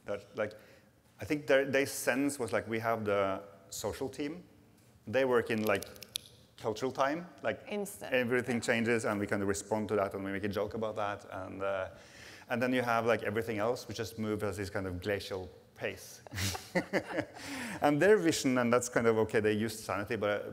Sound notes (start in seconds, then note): 5.5 snaps fingers; 16.3 laughs